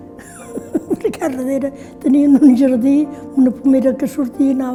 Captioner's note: laughs